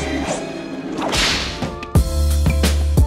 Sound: whip cracking; upbeat music

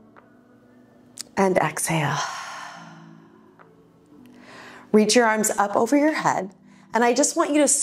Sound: exhales

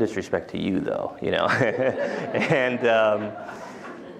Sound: laughter

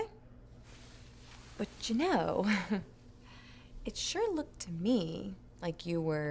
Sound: chuckles

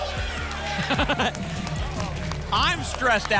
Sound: applause and cheering; laughs

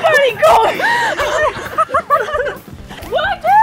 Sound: laughing

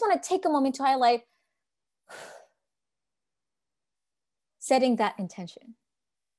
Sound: exhales

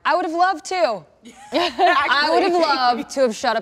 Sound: laughing

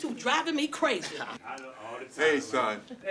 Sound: chuckles

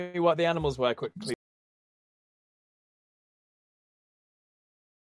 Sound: laughs

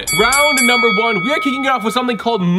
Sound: bell dings

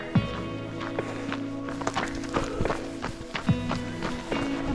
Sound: panting

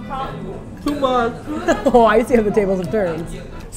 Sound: laughs

